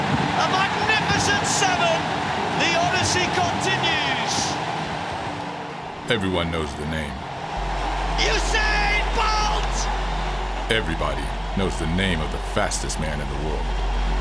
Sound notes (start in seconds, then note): 8.1 COMMENTATOR shouting